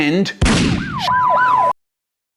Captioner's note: gunshot